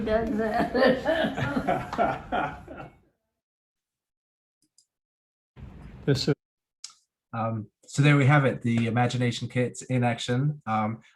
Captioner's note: laughter